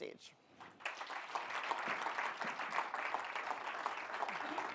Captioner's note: audience applauding